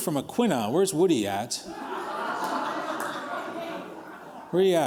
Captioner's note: laughter